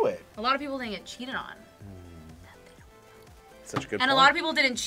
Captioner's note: whispers